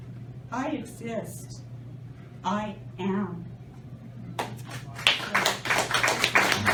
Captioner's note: applause